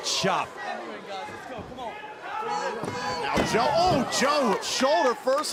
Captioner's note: crowd cheering